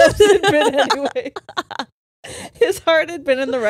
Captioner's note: all laughing